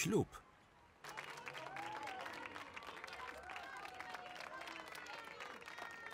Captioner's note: clapping and cheering